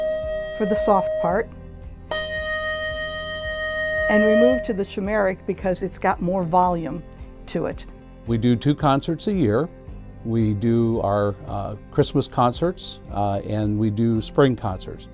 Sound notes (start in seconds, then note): 2.0 handbell dinging